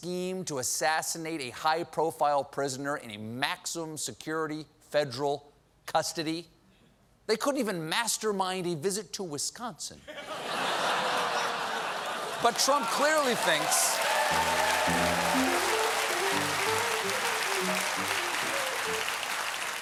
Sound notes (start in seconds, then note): 9.9 cheers and applause; 10.0 laughter; 14.2 piano riff